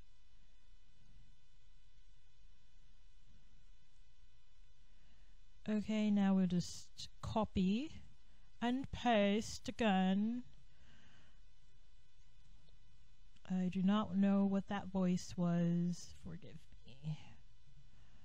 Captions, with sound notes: [Faux posh accent] Okay, now we'll just copy and paste again. I do not know what that voice was, forgive me.